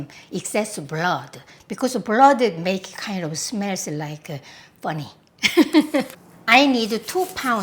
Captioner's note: laughs